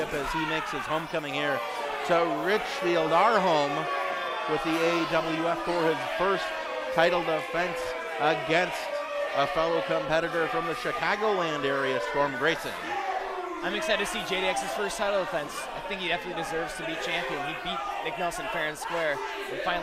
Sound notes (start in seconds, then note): 12.8 audience boos